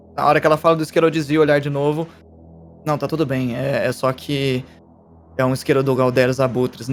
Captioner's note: none